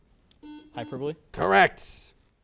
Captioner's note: buzzer